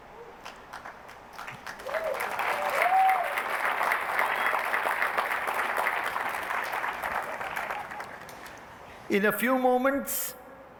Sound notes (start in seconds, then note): 0.4 applause, cheering